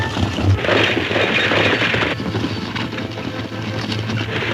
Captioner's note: hooves thundering